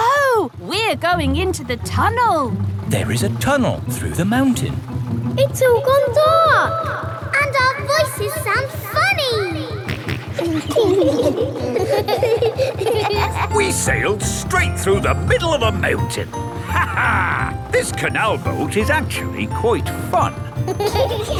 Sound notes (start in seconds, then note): 5.8 echoes; 10.2 kids laughing; 10.2 snorts; 17.5 laughs; 20.2 kids giggling